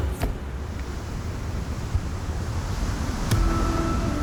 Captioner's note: waves rolling; electronic music